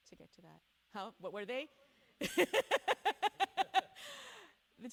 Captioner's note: laughs